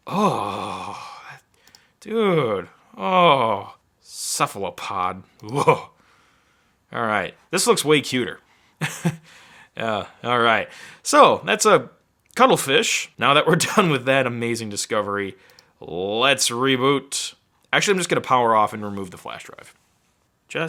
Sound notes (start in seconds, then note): 8.8 chuckling